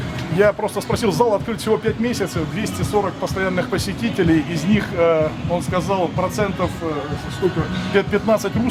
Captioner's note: translating what was said to Russian